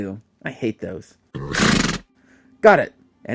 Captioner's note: horse sneezes